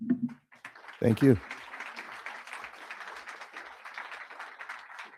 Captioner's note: crowd applauding